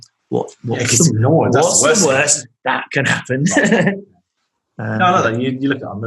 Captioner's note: laughing